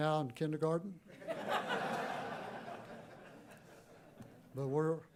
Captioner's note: laughter